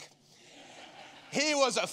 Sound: congregation laughing

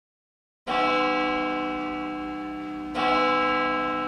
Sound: church Bell

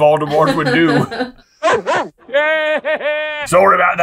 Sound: bark bark

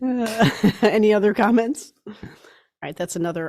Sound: laughs

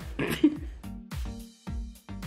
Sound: chuckling; upbeat music

